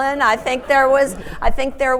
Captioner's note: audience laughing